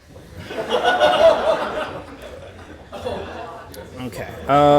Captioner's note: laughter